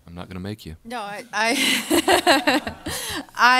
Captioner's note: audience laughter